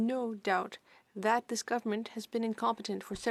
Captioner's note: speaking French